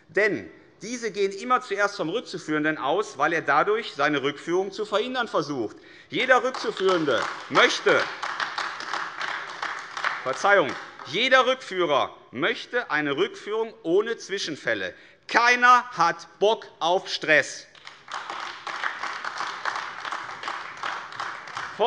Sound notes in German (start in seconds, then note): 6.1 Beifall AfD; 17.7 Beifall AfD